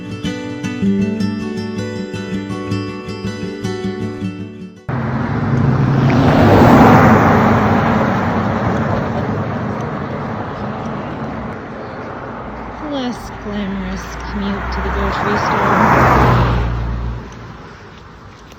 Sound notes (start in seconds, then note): 6.7 sound of vehicles driving by on the road